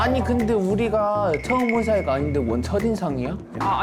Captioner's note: confused sound effect